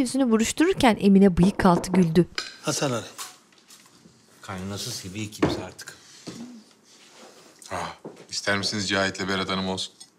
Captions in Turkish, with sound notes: (Kapı tıklatma sesi) Hasan Ali. Kaynanası seviyor, kimse artık. Ah, ister misiniz Cahit'le Berat Hanım olsun?